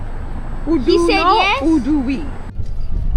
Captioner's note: haitian Creole